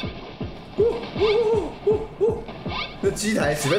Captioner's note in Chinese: 猴叫聲